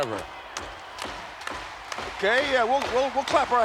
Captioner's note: clapping